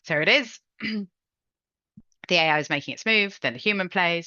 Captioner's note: clears throat